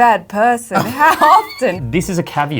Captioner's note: laughs